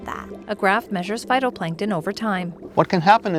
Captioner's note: water gurgling